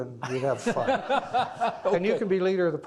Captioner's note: laughing